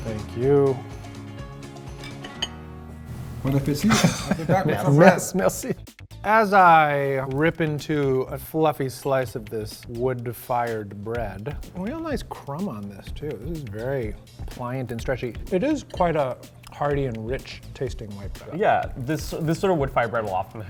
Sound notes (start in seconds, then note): 1.9 banjo music; 3.7 laughter